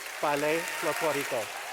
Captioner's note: clapping, cheering